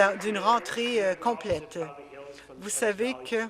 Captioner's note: applause